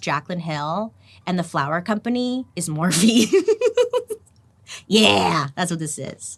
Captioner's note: giggling